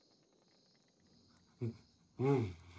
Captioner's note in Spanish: Laín exhala